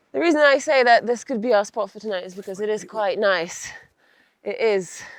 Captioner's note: none